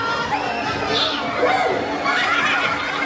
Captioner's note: laughter